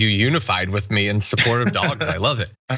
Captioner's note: laugh